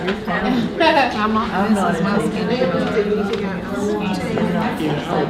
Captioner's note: participants talking at once